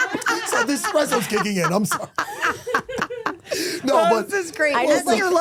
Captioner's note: laughs